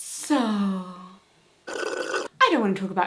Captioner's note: slurp sfx